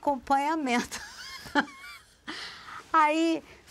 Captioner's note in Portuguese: Risos